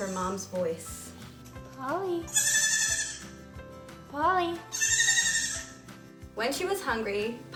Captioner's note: Polly bleats; Polly bleats again